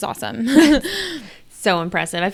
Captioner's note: laughs